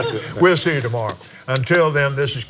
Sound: laughs

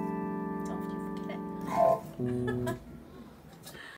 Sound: laughter

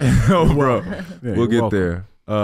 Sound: laughing

